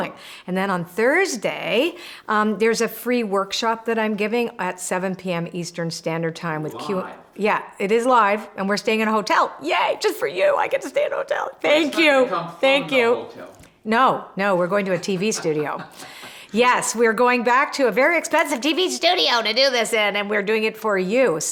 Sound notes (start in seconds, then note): 14.9 laughs